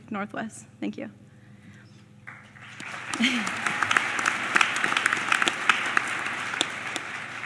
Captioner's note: applause